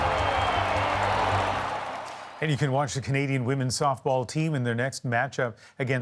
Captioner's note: cheers and Applause